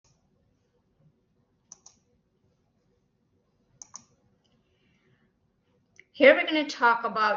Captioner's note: silence